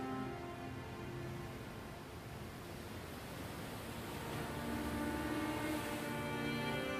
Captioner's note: waves splashing